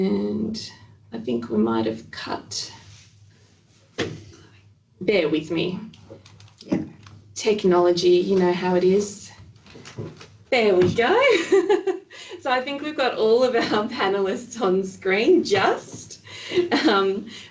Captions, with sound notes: And, I think we might've cut. Bear with me. Technology, you know how it is. There we go (laughing). I think we've got all of our panelists on the screen, just.